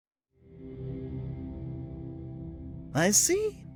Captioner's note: atmospheric ambiance